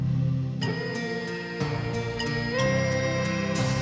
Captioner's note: children humming